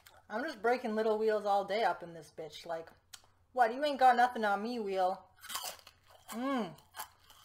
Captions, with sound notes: I’m just breaking little wheels all day up in this bitch, like, “What, you ain’t got nothing on me, wheel!” [Crunch] Mmmm!